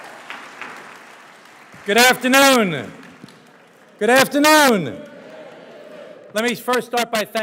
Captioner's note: cheers